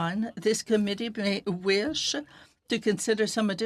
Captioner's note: speaking French